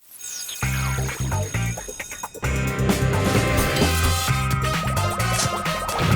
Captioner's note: bell ringing; funky upbeat music